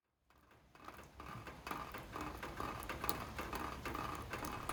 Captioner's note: rain pattering